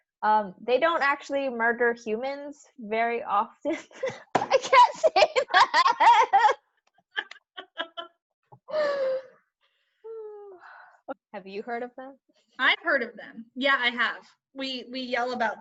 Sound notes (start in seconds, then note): 7.1 laughter